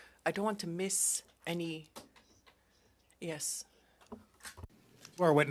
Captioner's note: speaking French